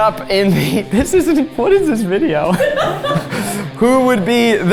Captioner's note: crew laughing